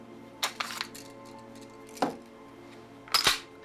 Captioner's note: dark, dramatic music; gun clicking